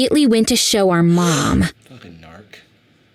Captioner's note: mother gasps